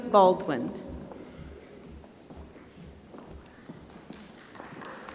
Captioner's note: applause